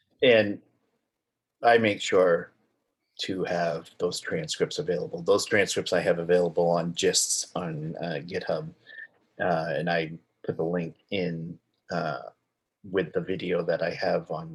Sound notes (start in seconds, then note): none